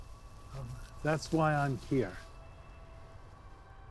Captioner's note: none